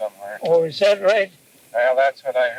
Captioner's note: cassette audio